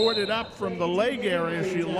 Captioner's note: referee whistling